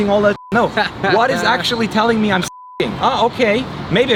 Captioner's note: beep